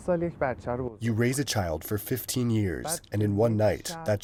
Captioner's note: through translator